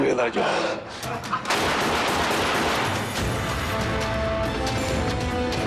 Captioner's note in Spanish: Disparos